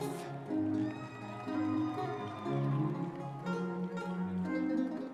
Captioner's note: audience members cheering